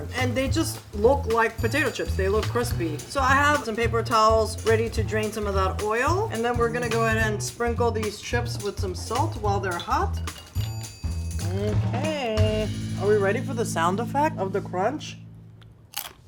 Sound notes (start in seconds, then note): 10.2 chips clink lightly